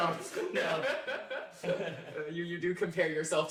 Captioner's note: laughter